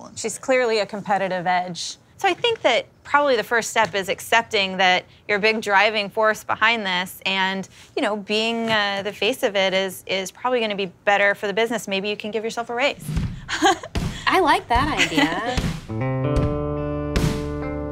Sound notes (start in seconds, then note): 14.7 blues music; 14.9 laughs